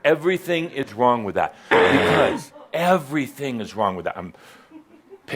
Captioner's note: growls in frustration